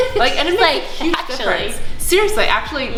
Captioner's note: laughs